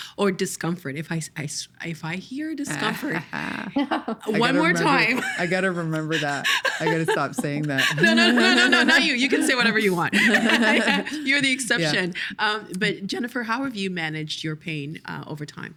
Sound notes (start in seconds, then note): 2.7 laughing; 9.7 both laughing